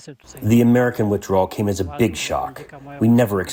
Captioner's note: through translator